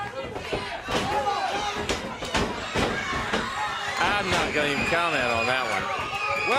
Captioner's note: crowd cheering